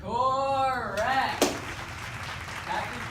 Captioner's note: applause